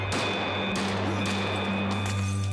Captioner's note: gunshots